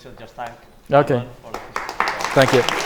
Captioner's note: applause